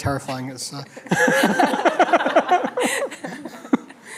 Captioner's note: laughter